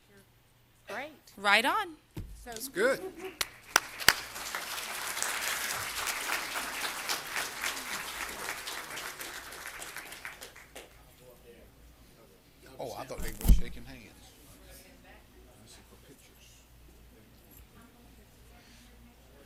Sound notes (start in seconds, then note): 8.0 applause